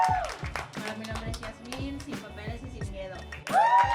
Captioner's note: crowd applauding; speaking in foreign language; crowd applauding